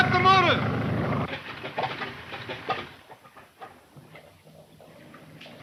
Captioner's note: plane engine sputtering